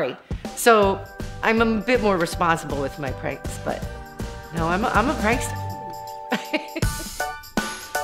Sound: laughs

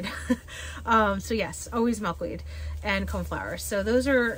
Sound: laughs

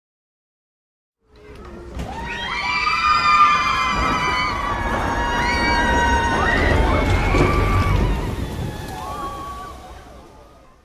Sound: sound of screaming people

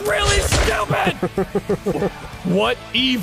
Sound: laughing

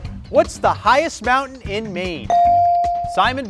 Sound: bell rings

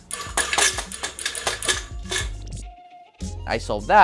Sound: can sputters

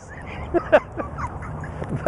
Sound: both laughing

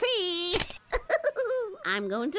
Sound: snaps; laughs

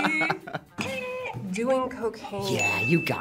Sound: buzzer rings

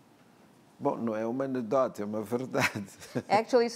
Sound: speaking portuguese

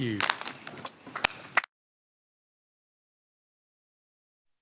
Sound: applause

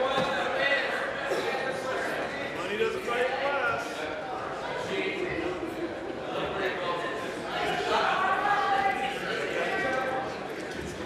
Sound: conversation din

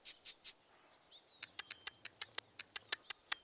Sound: smacking lips

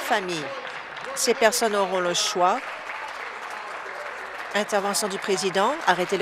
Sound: applause

